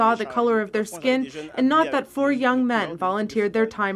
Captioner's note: speaking French